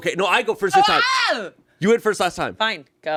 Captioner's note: yells